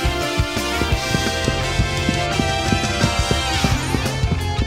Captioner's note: running Shoesteps